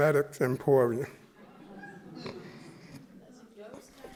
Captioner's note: chuckling